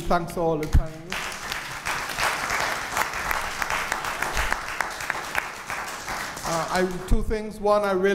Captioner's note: applause